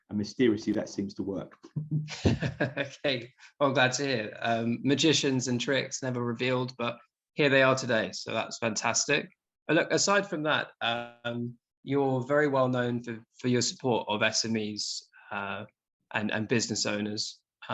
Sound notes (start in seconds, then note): 1.8 laughs